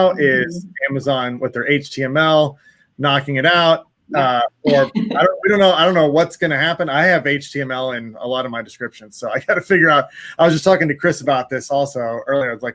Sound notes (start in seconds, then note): 4.6 laughs; 9.8 chuckles